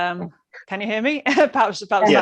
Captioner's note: laughs